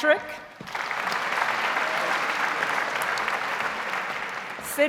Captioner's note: audience applauds